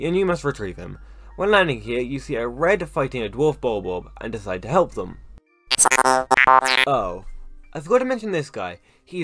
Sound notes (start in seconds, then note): 5.7 robot noises